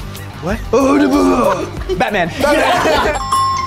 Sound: groaning; app chimes; group laughs

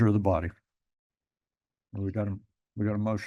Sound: pause

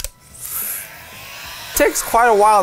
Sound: gun buzzing

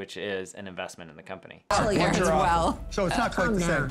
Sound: group chattering

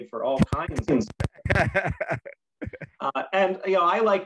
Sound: laughs

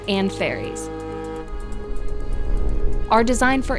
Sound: horn honking

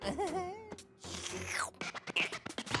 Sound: chuckles; slurping

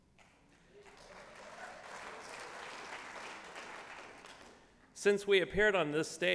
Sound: applause

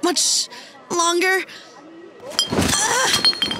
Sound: cat falls

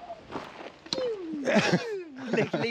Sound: makes laser gun noise

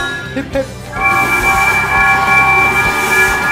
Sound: the engines whistle; crowd cheeers, the engines whistle

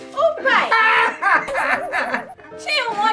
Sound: sobbing

